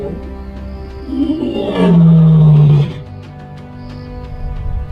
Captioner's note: lion's Roar